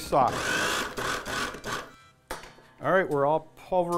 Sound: whirring

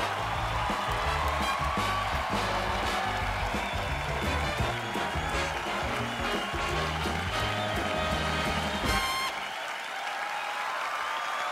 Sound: cheers and applause

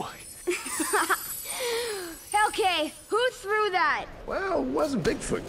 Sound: gasps and laughs

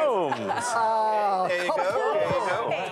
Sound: laughter, surprise

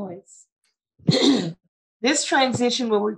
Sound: clearing throat

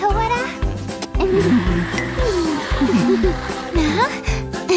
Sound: chuckles, babbles; chuckles softly; grunting nervously; chuckles

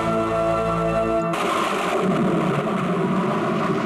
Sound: thunder crashing

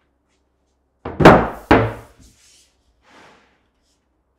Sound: plywood thudding

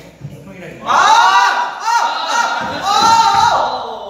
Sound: AAAH! Aaah aah aAAahWOah!

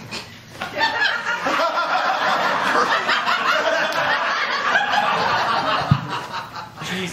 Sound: laughter

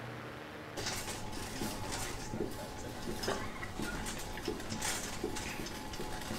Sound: trolley rattling

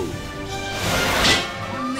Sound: crash into car

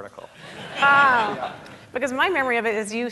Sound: audience laughing

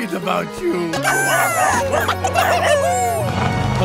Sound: barking

